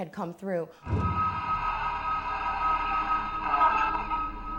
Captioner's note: machine squealing